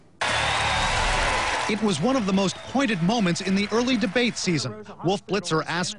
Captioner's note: voice-over